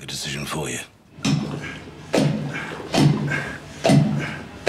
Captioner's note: loud thudding; Colin grunting